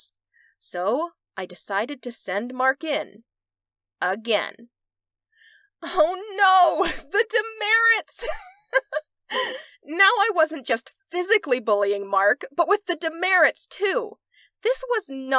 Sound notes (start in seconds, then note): 8.1 laughter